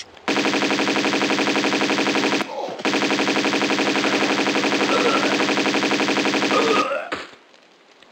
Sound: bratatatatata

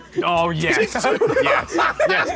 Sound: laughing

